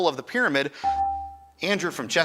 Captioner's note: buzzer chimes